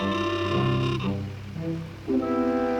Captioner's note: car horn honking